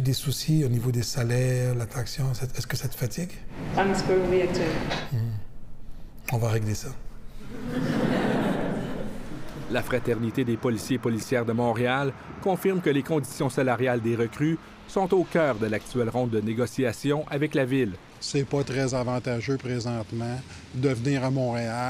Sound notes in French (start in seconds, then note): 7.4 rires